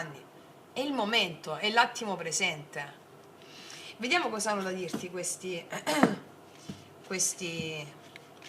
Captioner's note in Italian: schiarire la voce